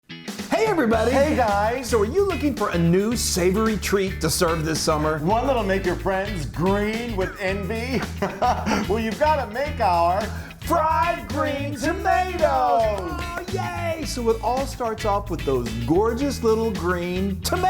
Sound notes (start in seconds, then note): 7.2 both laughing